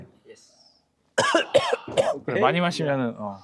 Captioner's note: coughing